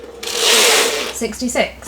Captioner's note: machine whirring